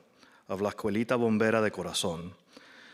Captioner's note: none